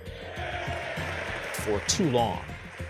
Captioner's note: House Republicans cheering